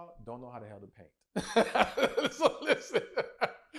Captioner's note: laughs